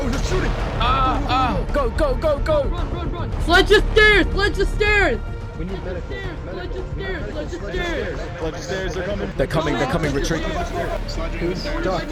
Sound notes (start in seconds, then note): 5.3 yelling to sledge the stairs in the distance